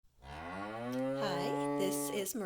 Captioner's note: cow moo